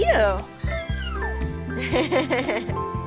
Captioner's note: squeals in joy